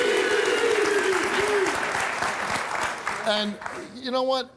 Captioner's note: applause